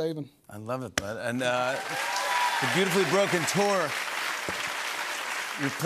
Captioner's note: cheers and applause